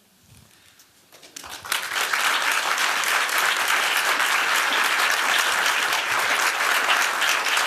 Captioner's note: applause